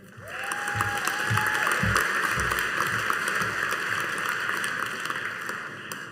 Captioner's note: audience cheering and applauding